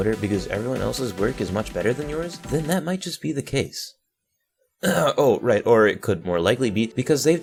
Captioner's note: ahem